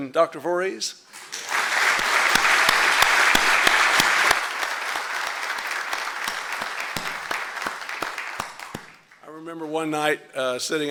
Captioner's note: applause